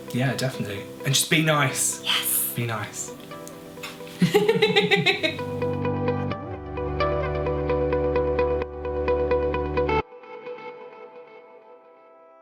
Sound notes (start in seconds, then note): 4.1 laughs; 6.0 relaxing music